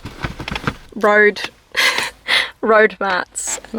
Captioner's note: laugh